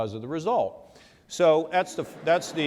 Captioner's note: laughter